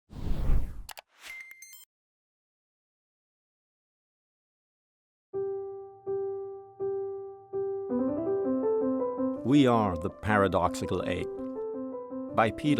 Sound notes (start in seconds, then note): 0.1 loud whoosh; 0.8 click; 1.3 beeping; 5.4 cheerful piano music